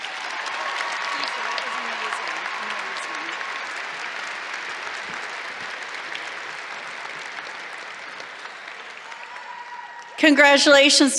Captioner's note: applause